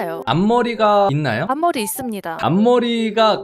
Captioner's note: voiceover